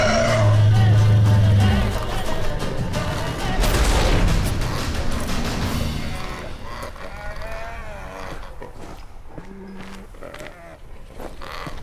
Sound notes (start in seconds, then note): 0.0 low groan; 3.4 loud crash; 7.9 labored groaning, trilling